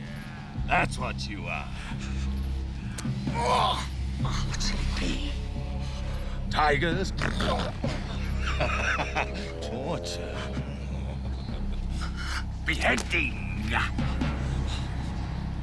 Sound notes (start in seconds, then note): 10.6 laughing